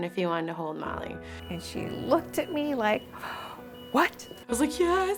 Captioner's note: inhale